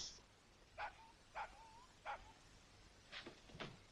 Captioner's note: dog barks